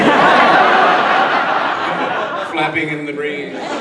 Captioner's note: audience laughs